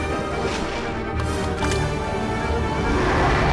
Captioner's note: water splashing; dinosaur roaring